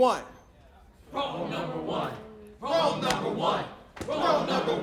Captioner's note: crowd, chanting